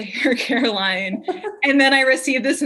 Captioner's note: laughing